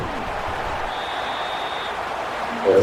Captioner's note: crowd Noises